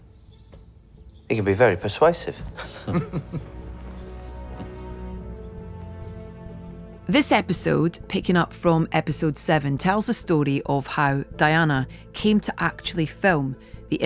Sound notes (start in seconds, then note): 2.4 both laugh; 2.7 soft somber music